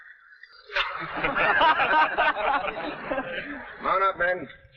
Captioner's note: men laughing